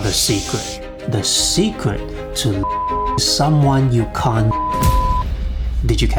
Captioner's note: beep